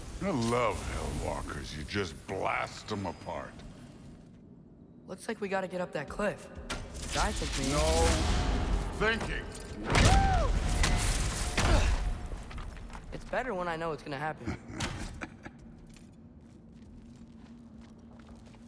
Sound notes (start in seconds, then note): 14.3 laughs